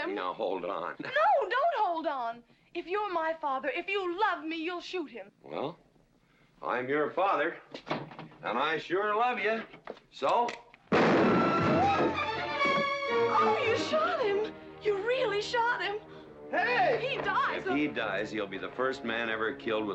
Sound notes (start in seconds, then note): 10.9 gun firing; 11.4 tense music